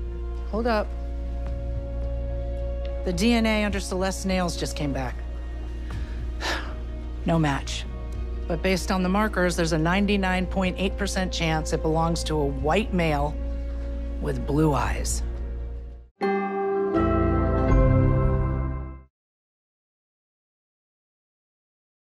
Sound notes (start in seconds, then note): 6.3 sighs